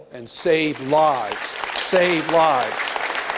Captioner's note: applause